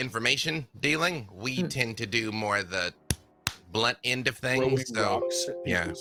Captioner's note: hits hands